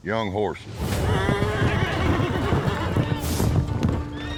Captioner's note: hoofbeats; horse neighing, bucking